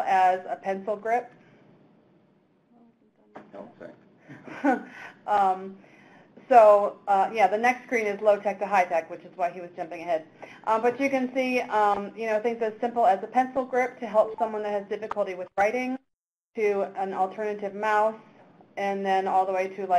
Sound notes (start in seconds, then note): 3.7 speaks away from mic; 4.3 chuckles